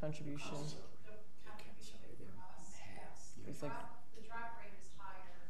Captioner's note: woman speaking faintly